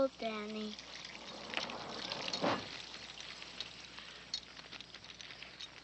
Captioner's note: barn door sliding